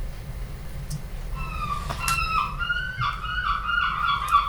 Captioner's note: seagulls